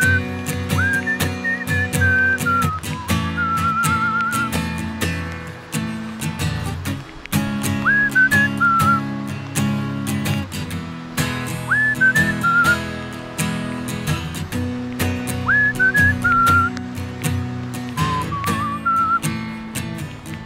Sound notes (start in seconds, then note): 7.2 whistling finally winds down